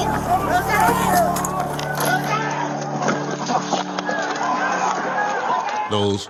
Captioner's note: shouting continues on video